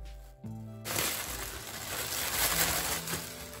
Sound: more crinkling

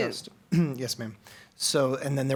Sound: clears throat

